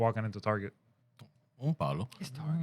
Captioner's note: speaking Spanish